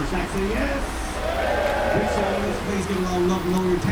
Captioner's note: crowd Cheering